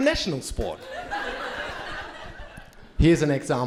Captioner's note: crowd laughing